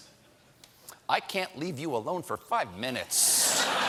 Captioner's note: laughter